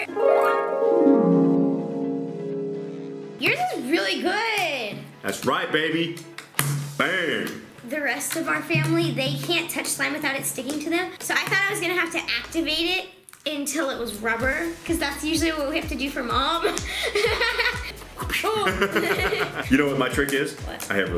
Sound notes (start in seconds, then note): 0.0 magical harp music; 6.4 slam; 18.2 laughs